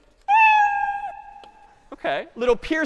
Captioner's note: cat meowing